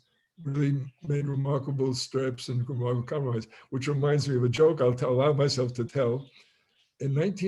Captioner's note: Hebrew